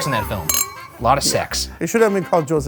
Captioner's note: glass clinks